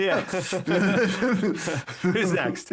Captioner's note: laughing